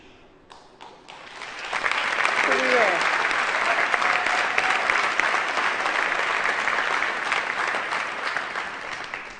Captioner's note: applause